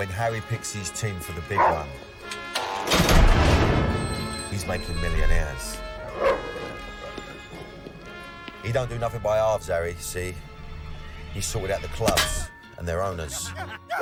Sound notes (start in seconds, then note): 6.2 dog barks